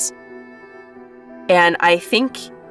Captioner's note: none